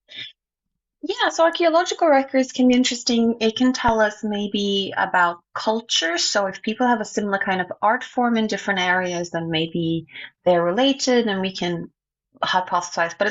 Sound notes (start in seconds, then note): none